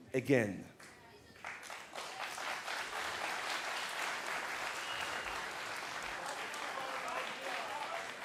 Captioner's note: applause